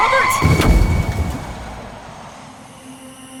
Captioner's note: car thumps; crickets chirp; suspenseful music